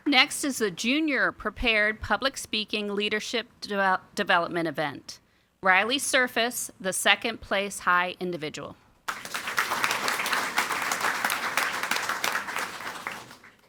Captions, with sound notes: Next is the Junior Prepared Public Speaking Leadership Development Event. Riley Surface, the second place high individual. (audience applauding)